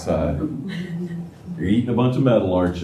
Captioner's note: laughter